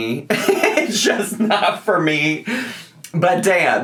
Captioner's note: laughs